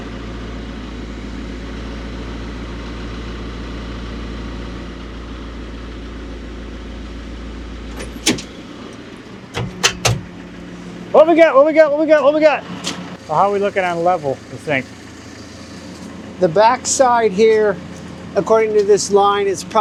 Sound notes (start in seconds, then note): 5.5 engine humming continues; 7.8 forklift clunking